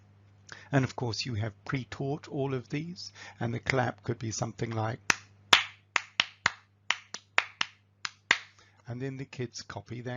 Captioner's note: claps